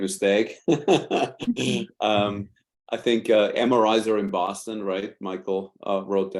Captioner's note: laughs